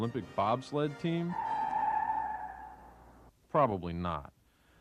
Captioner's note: tires squealing